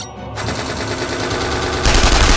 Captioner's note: cannon firing; guns blasting